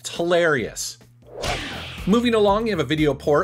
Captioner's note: whip crack